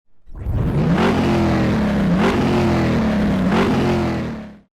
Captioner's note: car engine revving